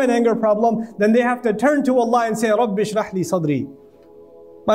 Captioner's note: Arabic